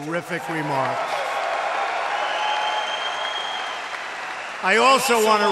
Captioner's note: applause